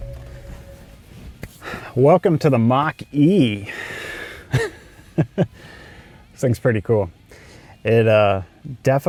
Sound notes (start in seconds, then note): 4.6 laughs